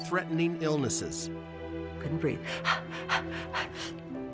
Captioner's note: panting